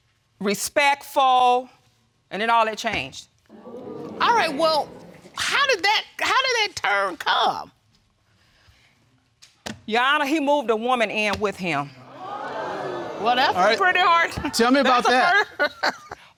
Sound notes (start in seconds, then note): 3.5 audience exclaim; 12.0 audience exclaim; 12.1 laughing